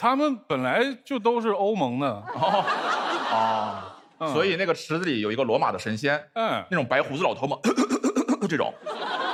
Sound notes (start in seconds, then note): 7.6 coughing